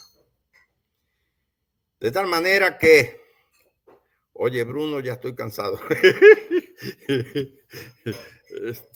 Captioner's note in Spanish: Risas